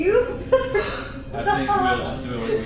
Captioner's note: laughter